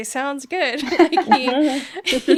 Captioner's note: laughing